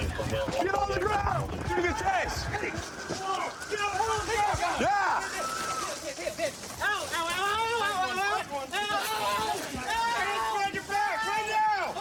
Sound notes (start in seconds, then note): 3.1 officers yelling